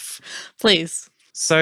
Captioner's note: excited